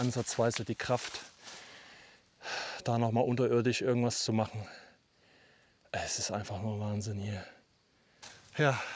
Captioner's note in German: seufzt